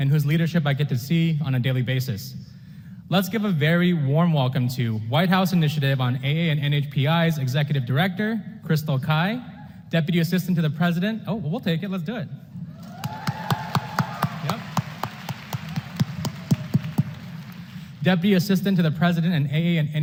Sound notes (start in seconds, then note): 12.8 applause